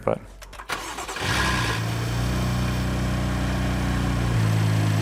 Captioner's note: engine revs